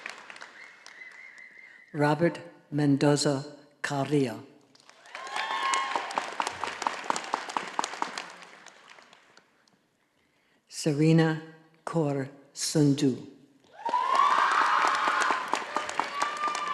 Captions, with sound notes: Robert Mendoza Carrillo. (audience applauding) Serena Kor Sunju (all applauding)